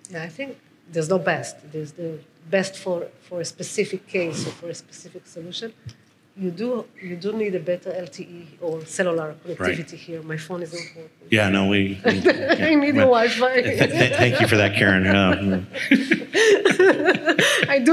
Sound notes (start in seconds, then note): 12.0 laughing; 16.1 speakers laughing